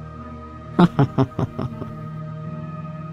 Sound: laugh

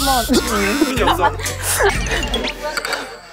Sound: failed to hold in the laugh

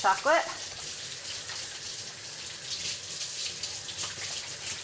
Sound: water running

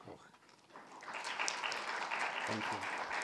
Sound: audience applauds

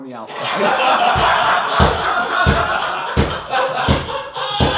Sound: audience laughs

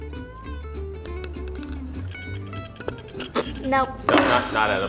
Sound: teeth hitting against plates

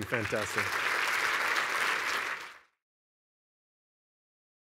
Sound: applause

